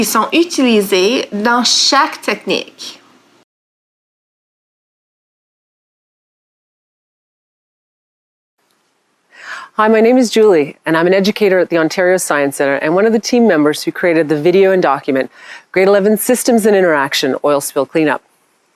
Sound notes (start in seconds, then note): 9.5 in English